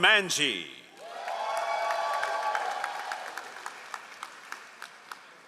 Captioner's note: all applauding